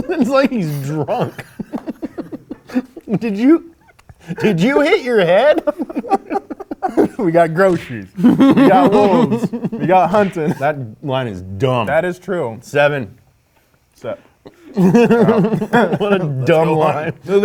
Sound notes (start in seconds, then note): 1.5 both laugh; 5.7 laughs